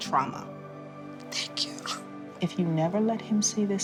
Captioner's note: sobs